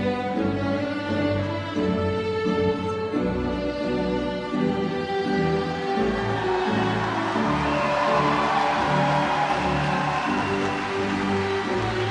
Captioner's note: applause